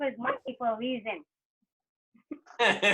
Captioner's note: laughter